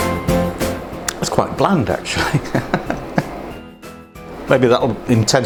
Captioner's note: laughs